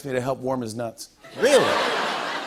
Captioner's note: laughter